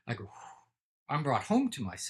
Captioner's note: Andrew sighing